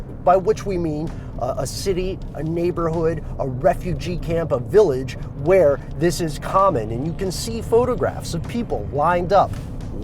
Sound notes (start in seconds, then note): none